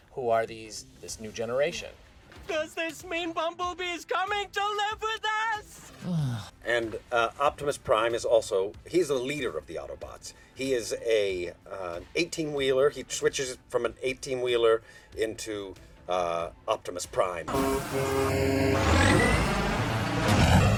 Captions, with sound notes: who are these, this new generation. Does this mean Bumblebee is coming to live with us? [sighs] And Optimus Prime is also-- he's the leader of the Autobots. He is a 18 wheeler. He switches from an 18 wheeler into Optimus Prime. [loud car honk and engine revving]